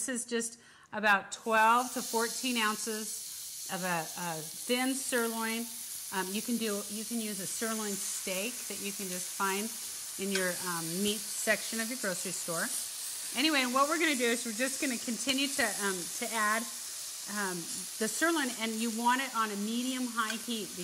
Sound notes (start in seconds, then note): 5.4 sizzling